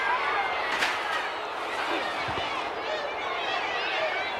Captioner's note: crowd chattering